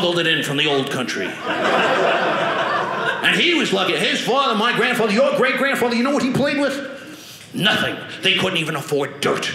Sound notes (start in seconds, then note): 1.3 audience laughing